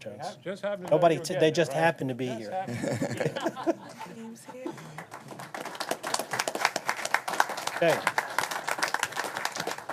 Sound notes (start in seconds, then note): 4.6 applause